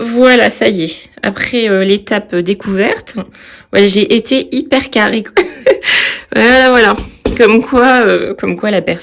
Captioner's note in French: rires